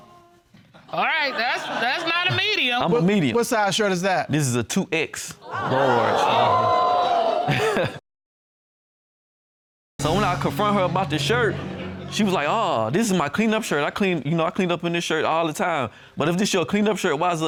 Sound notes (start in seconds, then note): 7.5 audience exclaiming